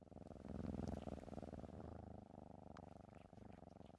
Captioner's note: cat purrs